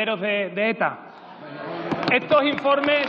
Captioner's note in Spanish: Varias señoras y señores diputados: ¿Muy bien! ¡Eso, eso!-Aplausos